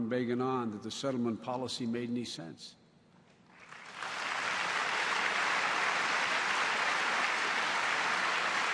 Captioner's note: applause